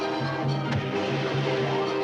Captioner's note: whooshes